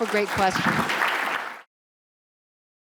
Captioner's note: applause